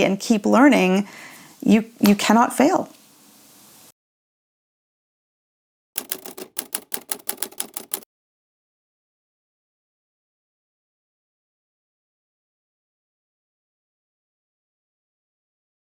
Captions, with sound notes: and keep learning, you cannot fail. (typewriter keys clacking)